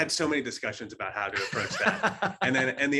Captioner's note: laughing